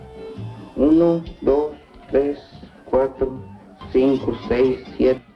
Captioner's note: counting in spanish